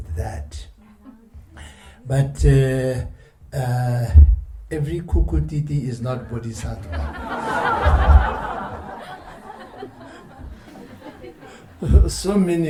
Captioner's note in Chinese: 笑聲